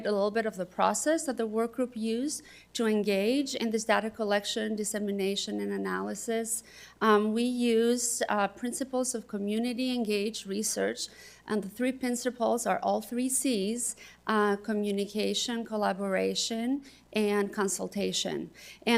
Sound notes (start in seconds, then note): none